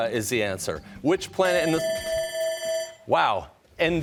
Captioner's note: timer sounding